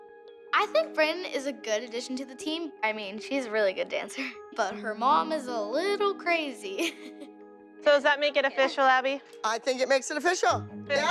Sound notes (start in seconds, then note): 6.8 chuckles